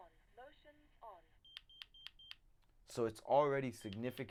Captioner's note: alarm beep